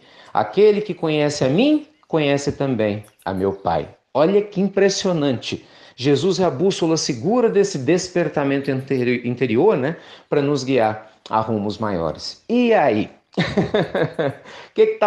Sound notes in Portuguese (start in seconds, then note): 13.3 risos